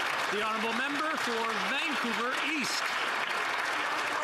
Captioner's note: some Applause